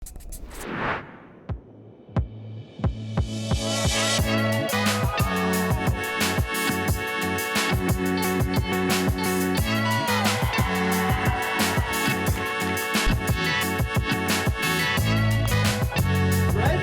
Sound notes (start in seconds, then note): 8.7 cheering